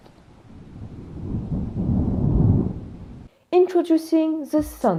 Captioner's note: thunder rolls